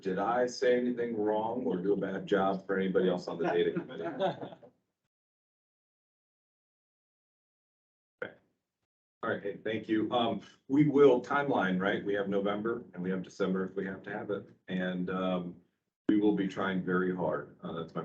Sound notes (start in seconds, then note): 4.5 people laughing